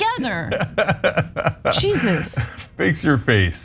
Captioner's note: laugh